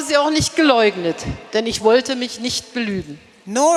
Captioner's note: speaking in German